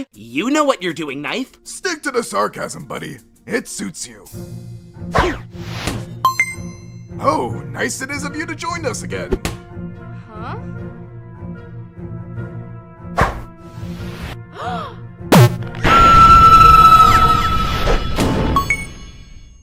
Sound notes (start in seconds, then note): 14.5 gasp; 15.8 screaming